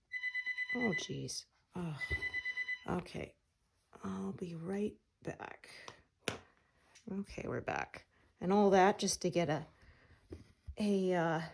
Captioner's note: phone rings